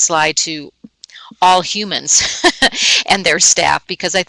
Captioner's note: laughing